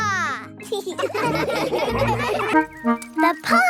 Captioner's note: laughing